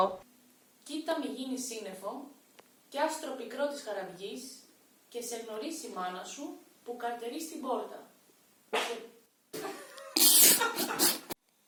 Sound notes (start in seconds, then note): 8.6 insert fart sound